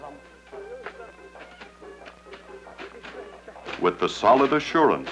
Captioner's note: leaves thrashing